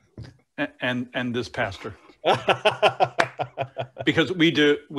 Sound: laughing

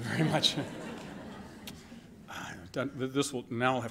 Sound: laughter

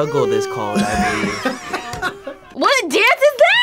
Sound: laughs

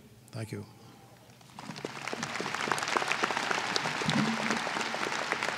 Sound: applause

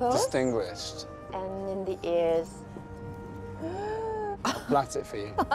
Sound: mock gasping

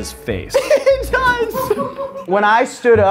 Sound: laughs

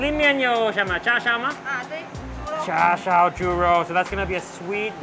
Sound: speaking in foreign language

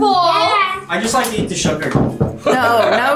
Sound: laughs

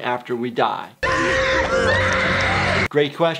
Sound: woman screaming

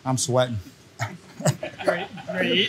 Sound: all laughing

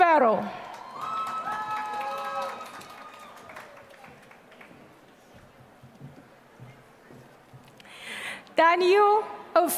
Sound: applause

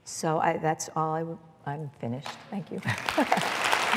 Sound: applause

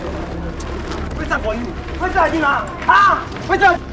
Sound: protests

